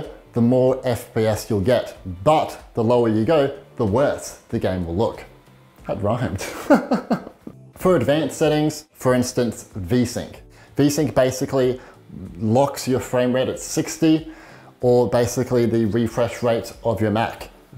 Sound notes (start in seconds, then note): 6.4 chuckles